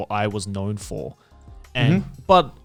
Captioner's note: affirmative murmuring